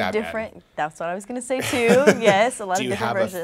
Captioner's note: laughing